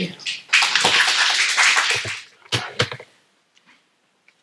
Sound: applause

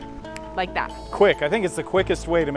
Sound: fingers snap

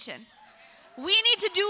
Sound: cheers

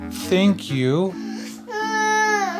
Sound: none

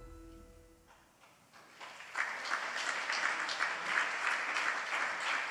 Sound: audience applauds

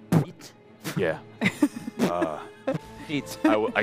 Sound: laughter

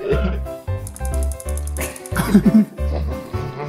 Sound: rattling; stereotypical French laughter; Ryan giggles

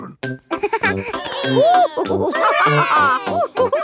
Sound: giggles; madam gazelle laughing; children straining

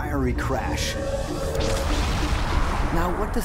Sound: explosion

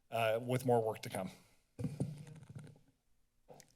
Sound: tap sound; rustling sound; tongue clicks

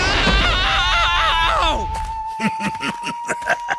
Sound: laughing

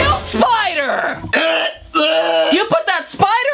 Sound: gagging

